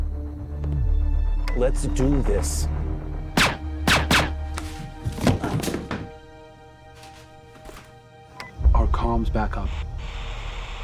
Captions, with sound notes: - Let's do this. (gun firing) (body thudding) - Our comm's back up.